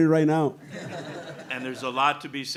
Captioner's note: audience laughing